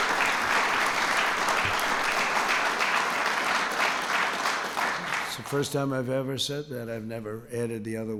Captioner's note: applause